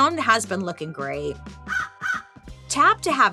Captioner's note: bird cawing